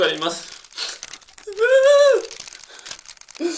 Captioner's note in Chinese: 嗚嗚嗚